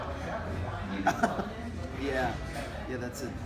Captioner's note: chuckles